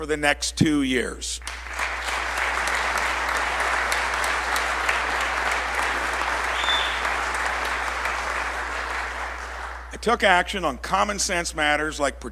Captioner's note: applause